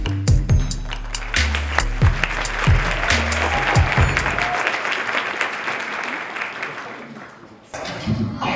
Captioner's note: applause